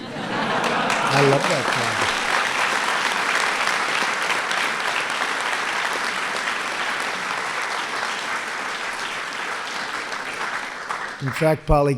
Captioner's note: laughter; applause